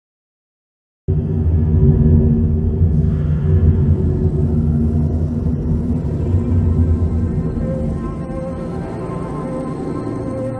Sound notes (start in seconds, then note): 1.1 sound of haunted planet